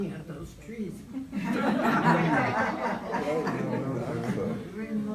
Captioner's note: group laughs